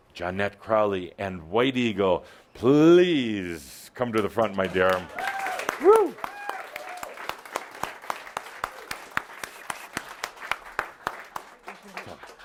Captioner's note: audience applause